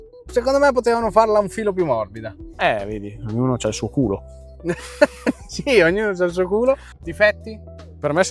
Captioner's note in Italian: risate